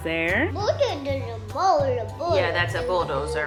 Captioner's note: babbles